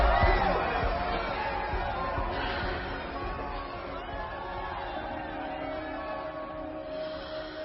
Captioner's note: breathing deeply